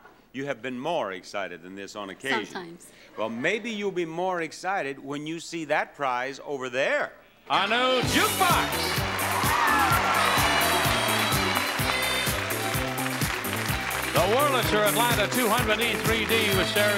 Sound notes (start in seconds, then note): 9.0 audience cheering; 10.4 disco music